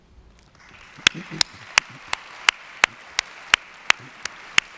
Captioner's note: audience applauds